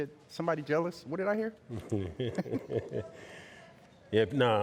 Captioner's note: men chuckling